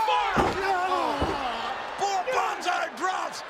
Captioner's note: rock groaning